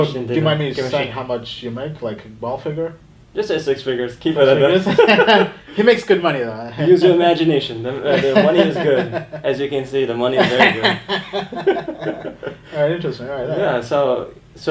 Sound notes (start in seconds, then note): 4.7 laughs; 10.4 laughter